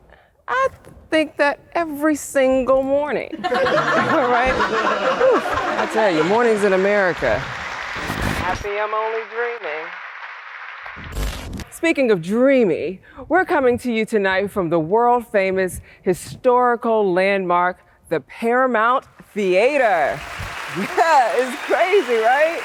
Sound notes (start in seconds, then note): 3.3 laughter; 10.7 television static